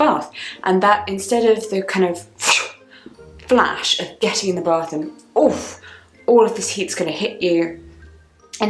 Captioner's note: whooshing